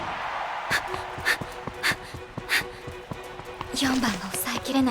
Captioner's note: huff